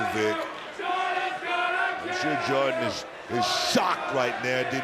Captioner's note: audience chanting